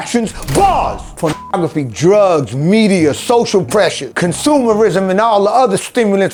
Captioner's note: beep